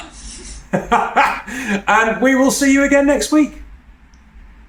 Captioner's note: laughing